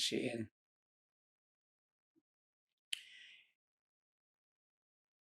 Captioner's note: pauses 6 seconds